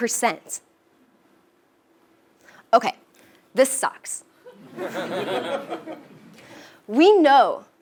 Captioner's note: laugh